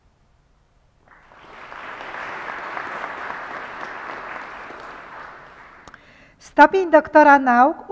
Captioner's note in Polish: oklaski